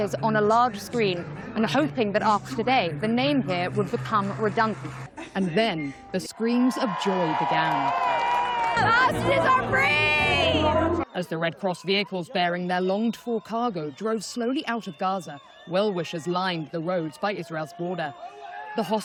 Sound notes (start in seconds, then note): 9.0 cheering